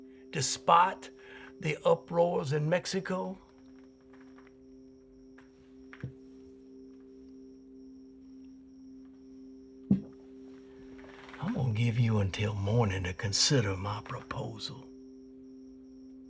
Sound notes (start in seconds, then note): none